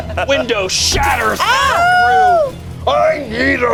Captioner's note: banging; players yell